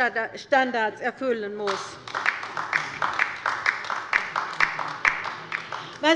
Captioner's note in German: Beifall bei der LINKEN